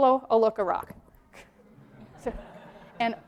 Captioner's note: laughter